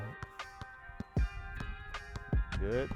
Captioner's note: basketball bounces